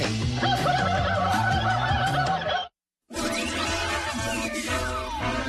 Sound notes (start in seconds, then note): 3.1 upbeat music; 3.5 signal buzzing